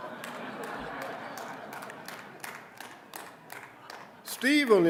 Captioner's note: audience laughing